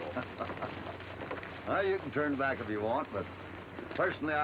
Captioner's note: laughs